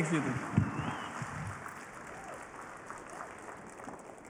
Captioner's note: cheering, applause